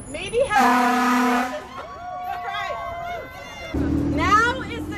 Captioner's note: car honking